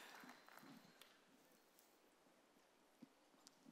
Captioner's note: applause